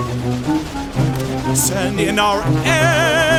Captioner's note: sounds of battle